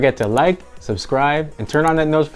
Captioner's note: button clicking